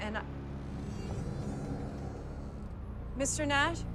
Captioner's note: eerie music; door creaks